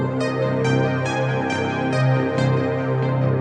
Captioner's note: none